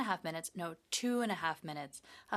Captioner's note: speaking in French